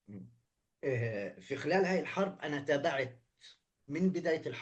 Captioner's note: speaking arabic